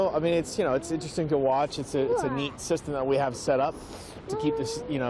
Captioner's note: sound OF RUSHING WATER